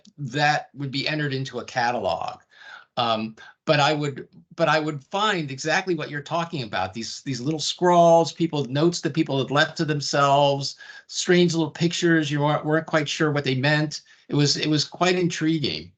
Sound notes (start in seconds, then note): none